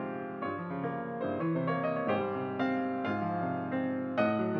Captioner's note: none